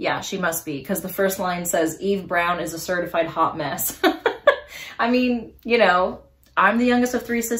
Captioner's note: laughs